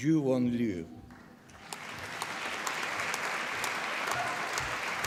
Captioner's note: applause